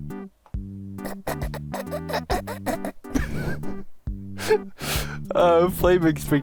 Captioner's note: trying really hard not to laugh